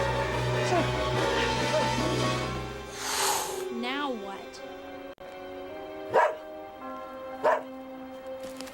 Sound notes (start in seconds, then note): 2.8 hissing; 6.0 barking